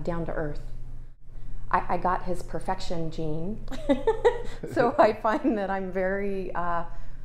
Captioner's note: laugh